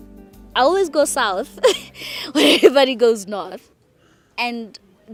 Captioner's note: laughs